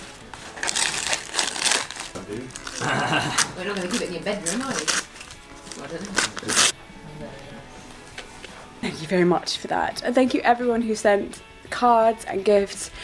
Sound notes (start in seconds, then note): 2.8 family chatting in background